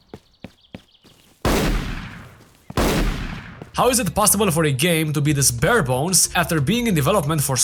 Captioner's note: gunshots